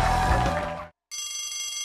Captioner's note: cheers and applause